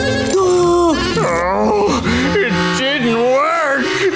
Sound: groaning

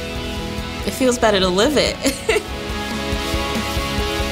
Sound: laughs; upbeat music

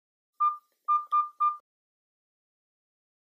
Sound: dialling phone

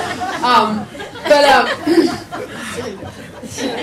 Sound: people laugh

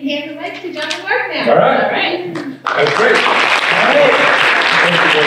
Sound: applause

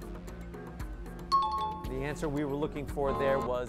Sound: timer bell

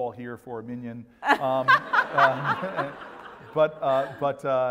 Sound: laugh

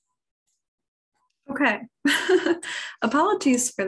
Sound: laughs

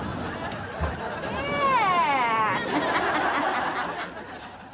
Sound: chuckles

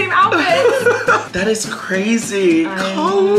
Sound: giggles

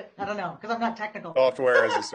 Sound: laughs

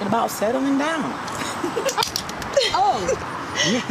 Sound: Tiffany laughs and claps

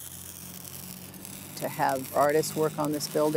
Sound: welding

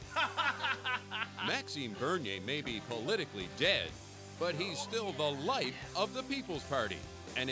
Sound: voiceover

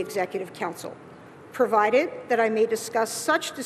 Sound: none

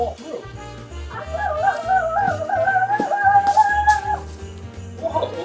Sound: assistant screaming

